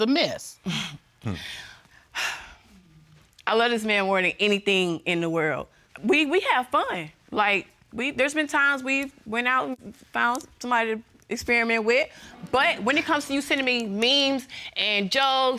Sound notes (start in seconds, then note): 0.3 scoffs; 1.2 sighs